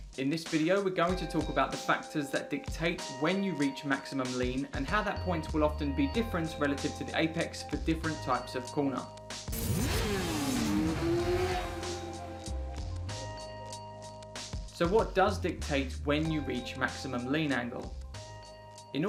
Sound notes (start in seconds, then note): 9.5 engine revving; 11.1 gentle music